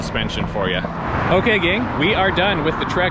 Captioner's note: car engine roaring